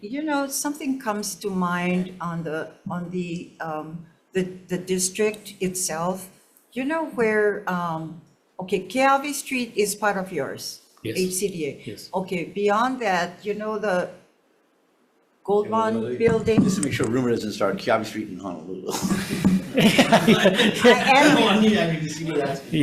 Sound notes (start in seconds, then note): 18.9 all laughing